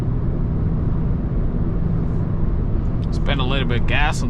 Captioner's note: car engine roaring